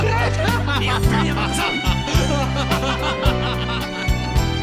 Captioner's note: Cheers of joy from Ōhara and the others